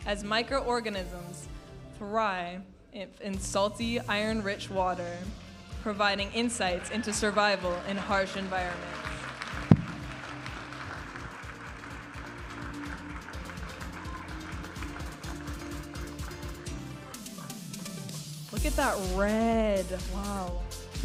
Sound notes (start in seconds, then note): 9.5 audience applauding and cheering; 11.7 vibrant music; 20.8 vibrant music